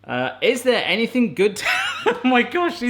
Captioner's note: laughs